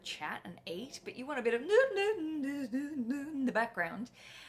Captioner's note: humming